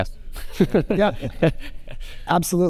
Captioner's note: laughing